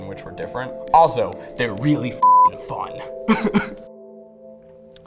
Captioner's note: laughs